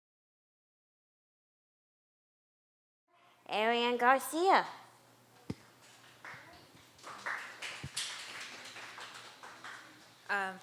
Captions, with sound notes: Arianne Garcia. [APPLAUSE]